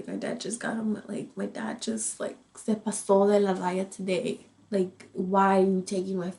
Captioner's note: speaks in foreign language